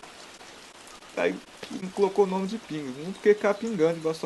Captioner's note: drip